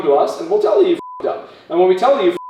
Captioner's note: beep